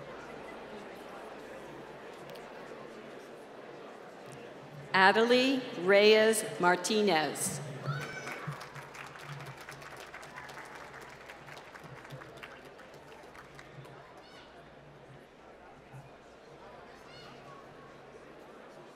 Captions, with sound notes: Adelie Reyes Martinez. (applause)